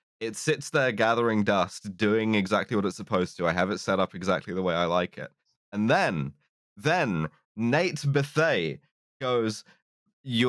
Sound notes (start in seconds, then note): none